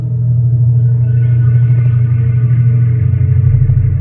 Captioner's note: device whirring